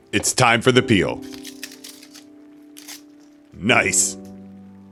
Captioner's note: satisfying peeling noises